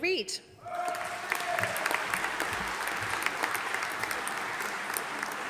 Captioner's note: audience applauding